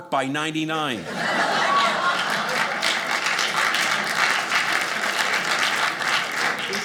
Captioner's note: audience cheering